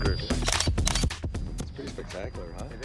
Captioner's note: camera snapping